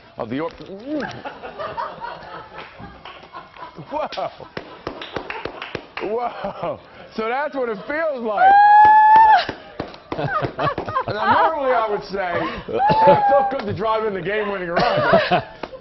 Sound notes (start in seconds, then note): 10.1 laughter